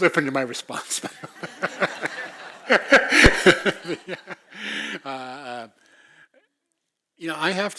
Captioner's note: laugh